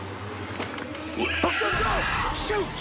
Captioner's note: screeching; creature screeching